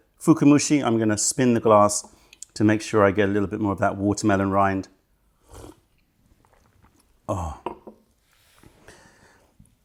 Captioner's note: sips tea